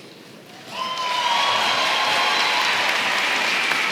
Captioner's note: applause